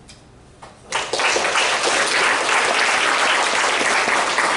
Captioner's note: audience applause